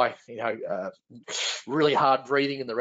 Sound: sucks in air

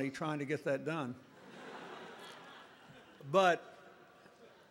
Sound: laughter

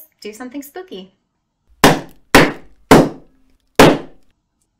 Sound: FX: 4 Loud Bangs

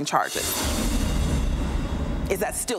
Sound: swoosh sound effect

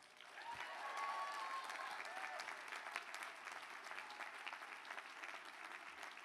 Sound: applause

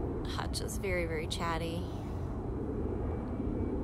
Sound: airplane noise

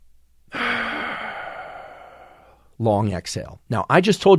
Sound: exhales; inhales deeply

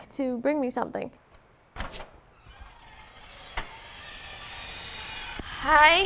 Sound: door creaking

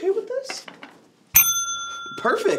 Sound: ding sound

